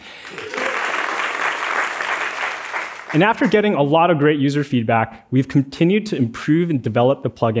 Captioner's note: applause